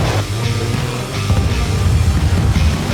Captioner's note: explosion